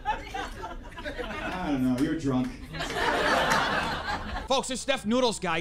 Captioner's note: audience laughing